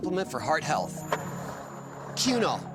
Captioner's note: skateboard wheels roaring